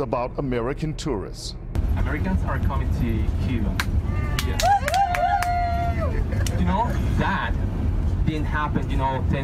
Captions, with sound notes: BUS RIDE FROM HAVANA WE LEARNED CUBAN'S THOUGHTS ABOUT AMERICAN TOURISTS. Jhovanni/Cuban Tour Guide. Americans are coming to Cuba (applause) 2:40 - 2:47